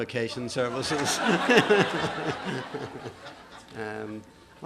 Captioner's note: laughter